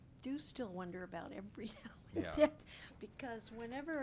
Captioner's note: chuckles